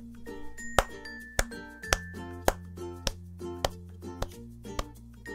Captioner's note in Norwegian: Ironisk klapping